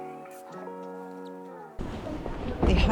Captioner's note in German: Vögel zwitschern